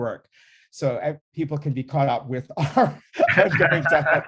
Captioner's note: laughing